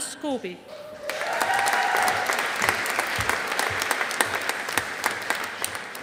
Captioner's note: audience applauding